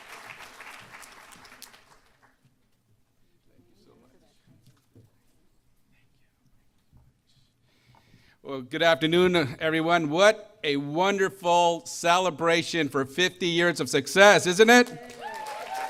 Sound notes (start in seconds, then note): 0.0 applause